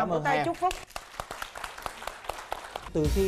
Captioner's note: applause